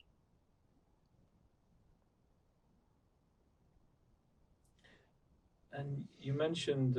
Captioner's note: pauses 6 seconds